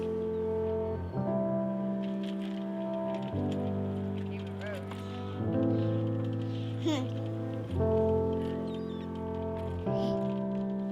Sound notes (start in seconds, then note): 6.8 giggling